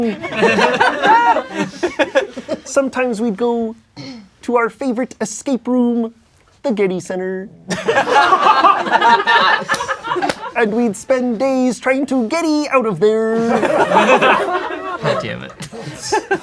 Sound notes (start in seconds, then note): 0.0 crowd laughing; 7.7 crowd laughing; 13.4 crowd laughing